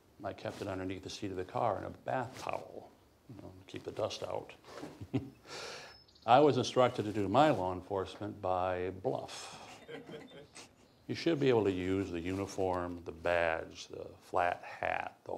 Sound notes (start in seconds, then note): 4.6 chuckles; 9.5 all chuckling